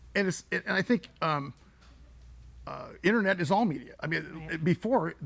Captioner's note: none